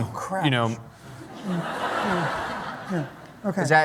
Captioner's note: laughter